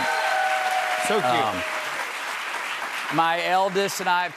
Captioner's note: cheers and applause